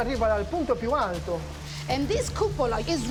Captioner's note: speaking Italian